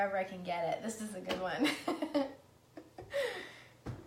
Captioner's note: laughs